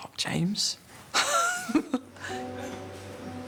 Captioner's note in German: lacht